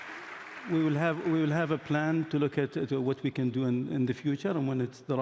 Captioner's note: applause